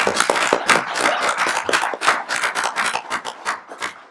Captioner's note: applauding